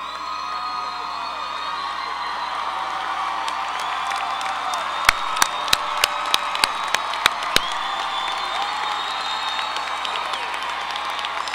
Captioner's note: cheering, applause